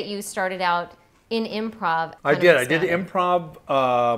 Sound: none

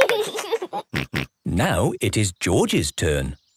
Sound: laughs

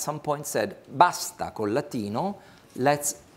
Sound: speaks foreign language

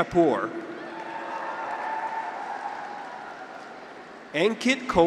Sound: graduates cheer

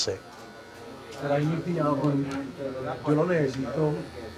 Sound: speaking Spanish

